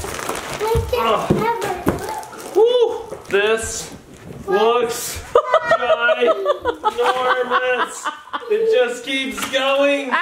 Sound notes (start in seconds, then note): 5.4 laughs